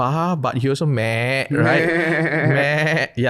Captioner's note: imitating sheep